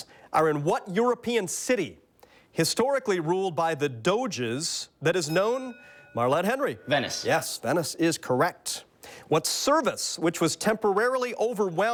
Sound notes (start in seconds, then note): 5.2 bell dings